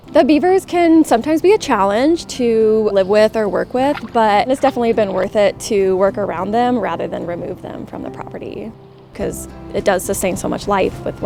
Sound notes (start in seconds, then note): 3.2 water splashes gently